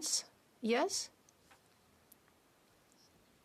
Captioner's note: speaking French